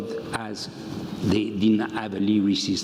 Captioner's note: none